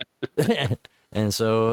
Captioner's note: laughs